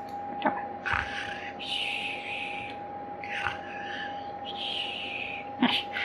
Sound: snores

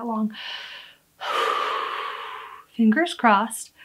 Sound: deep breath

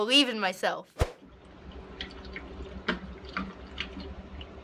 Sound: water running

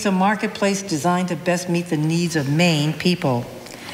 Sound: none

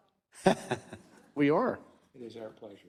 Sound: laugh

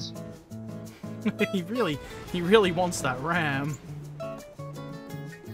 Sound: laughter

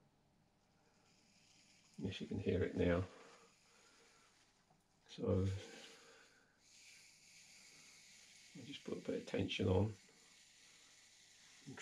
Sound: sizzle noise

